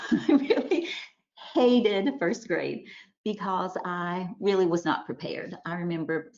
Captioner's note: chuckles